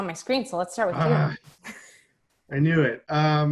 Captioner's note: groans